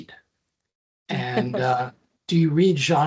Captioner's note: laughing